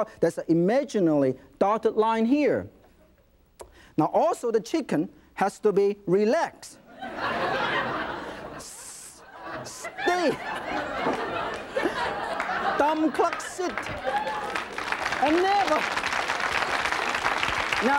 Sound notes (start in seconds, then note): 6.9 audience laughing; 14.9 audience applauding